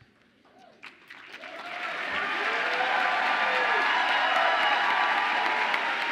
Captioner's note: audience applauding and cheering